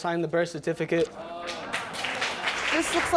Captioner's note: audience applauds